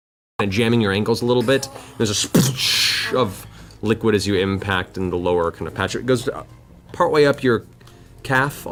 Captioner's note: splash